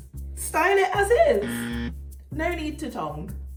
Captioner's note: fail horn blasts